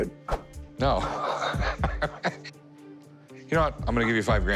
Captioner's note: laughs